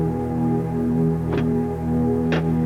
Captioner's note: lock clicks